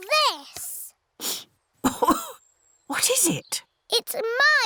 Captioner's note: sniffs and coughs